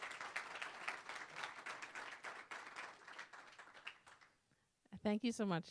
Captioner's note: applause